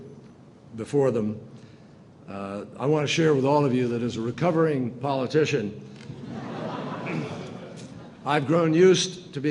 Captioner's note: laughter